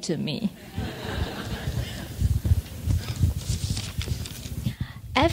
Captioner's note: audience laughs